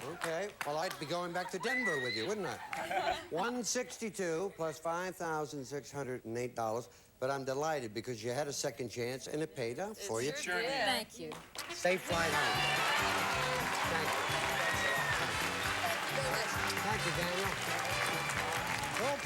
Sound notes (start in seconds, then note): 13.0 audience applauding